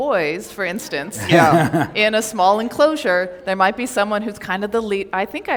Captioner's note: laughter